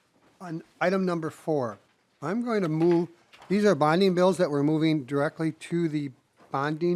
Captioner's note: gavel